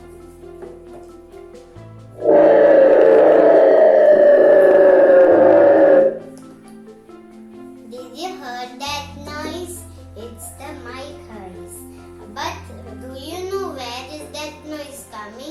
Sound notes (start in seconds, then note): 2.2 noise from mike